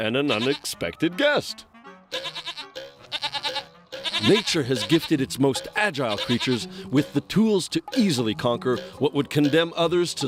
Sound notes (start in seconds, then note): 3.9 bleating